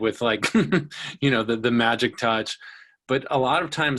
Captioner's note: giggles